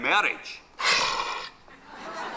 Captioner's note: Robin hisses